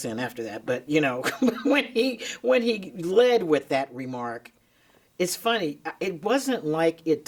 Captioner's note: chuckles